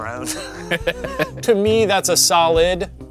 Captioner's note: both laughing